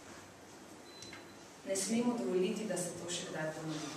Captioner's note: non-english speech